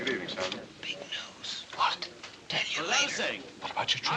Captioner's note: whispers